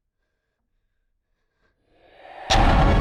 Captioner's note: monster rasping softly; sudden ominous music